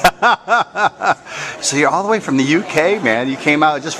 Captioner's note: laughter